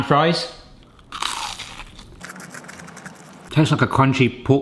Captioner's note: spam fries crunching